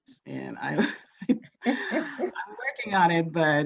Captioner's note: laughs